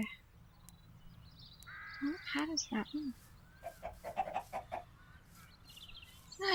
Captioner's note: chicken clucking